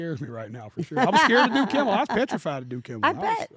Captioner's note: laugh